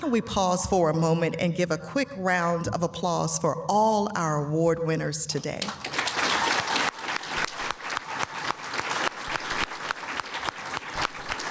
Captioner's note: applause